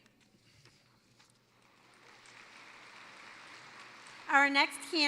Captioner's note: applause